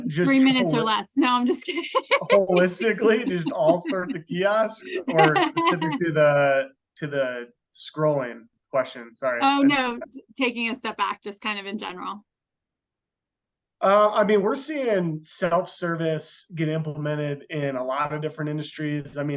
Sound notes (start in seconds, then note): 1.2 laughs